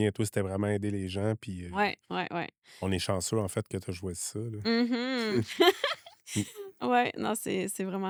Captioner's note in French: rires